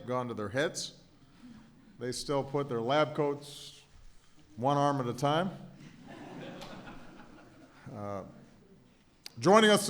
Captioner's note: laughter